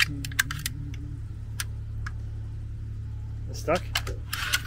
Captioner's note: metal clinking